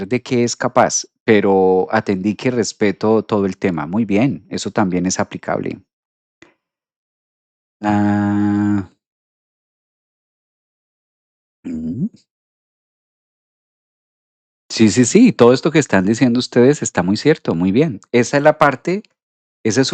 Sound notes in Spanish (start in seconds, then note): 11.7 carraspeo